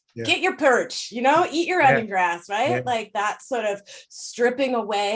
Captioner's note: chuckles